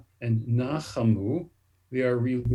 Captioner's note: speaks Hebrew